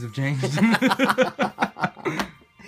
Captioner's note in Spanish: risa